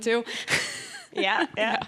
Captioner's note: laughs